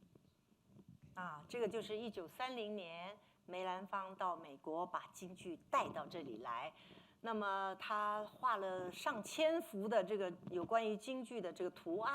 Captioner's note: speaking Mandarin